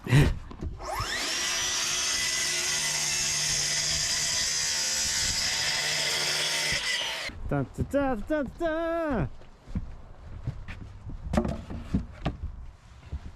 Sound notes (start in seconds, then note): 0.0 chuckles; 0.8 saw whirring; 8.0 vocalizing